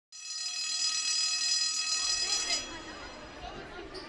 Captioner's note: bell ringing; students chatting